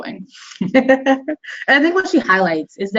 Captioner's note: laughing